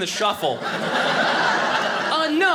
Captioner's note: audience laughing